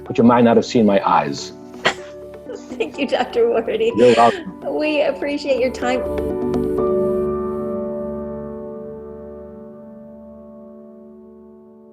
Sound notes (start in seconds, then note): 3.8 laughs; 6.3 soft instrumental music